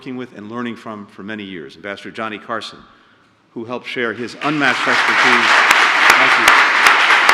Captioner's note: applause